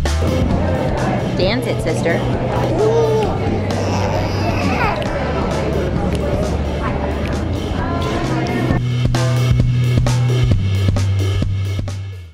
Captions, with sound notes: Dance it sister. (laughing)